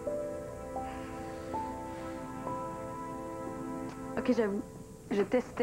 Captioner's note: none